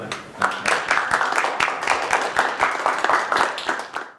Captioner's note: applause